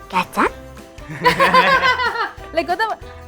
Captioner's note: laughing